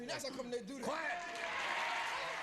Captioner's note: audience cheers